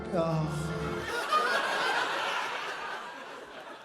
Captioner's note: laughter